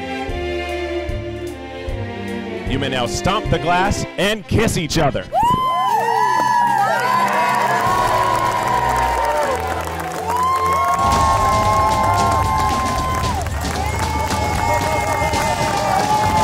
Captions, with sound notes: - You may now stomp the glass and kiss each other. (crowd cheering) (crowd cheering) (upbeat electronic music)